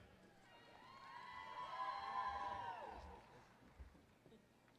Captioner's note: applause